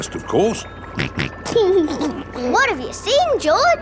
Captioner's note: snorts and laughs